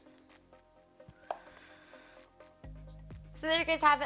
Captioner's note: sighs